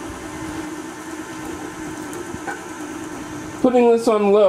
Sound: mixing sounds

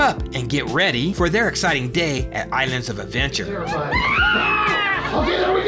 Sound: high Pitched Screams of Delight

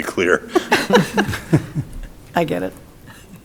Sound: people laughing

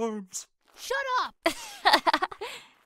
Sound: laughs

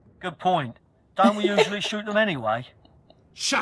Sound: laughs

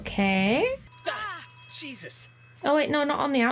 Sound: phone rings

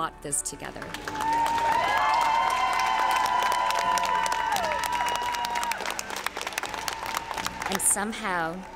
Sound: applause

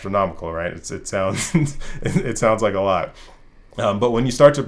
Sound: risas

